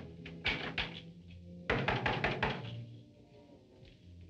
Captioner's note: door knocking